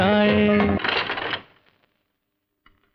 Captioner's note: rattling